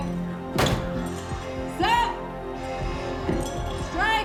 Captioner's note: shouts